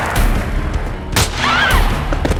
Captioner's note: gun fires; Ellie screams; intense music